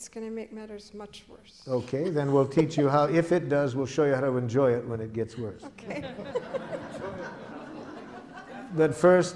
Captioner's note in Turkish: Gülüşmeler